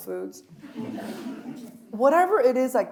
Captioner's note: audience laughs